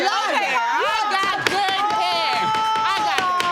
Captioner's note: gavel pounding